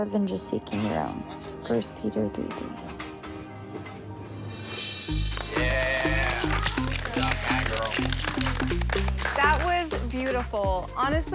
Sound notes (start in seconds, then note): 5.1 applause